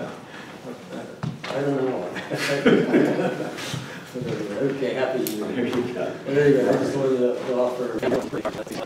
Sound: laughs

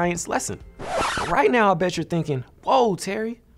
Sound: record scratches

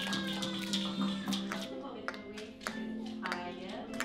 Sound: rhythmic tapping on wood

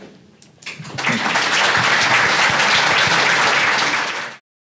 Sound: audience applauding

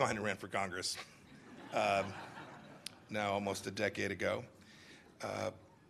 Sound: laughter

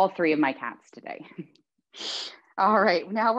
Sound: chuckles

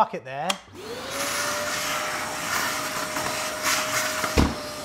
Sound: wet vac roars; wet vac booms

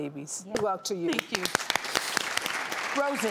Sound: audience clapping

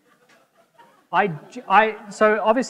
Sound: audience members laughing

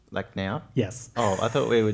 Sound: laugh

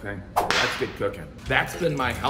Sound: whip cracking

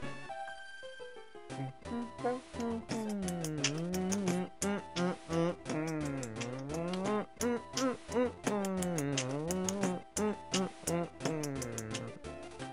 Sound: beatboxing to music

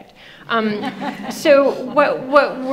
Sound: audience laughing

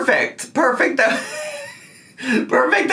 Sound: laughs

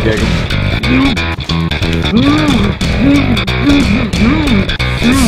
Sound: muffled protests

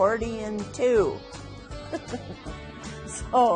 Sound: laughs

